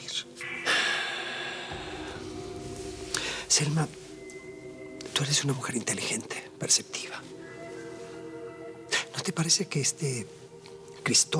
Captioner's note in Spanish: exhala